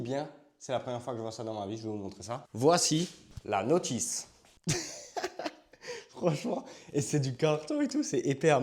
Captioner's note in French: rires